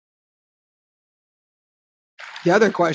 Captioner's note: break in tape